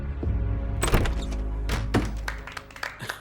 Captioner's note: door opens; applause